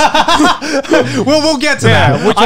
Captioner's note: laughs